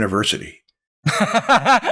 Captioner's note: laughs